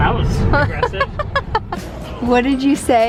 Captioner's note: laughing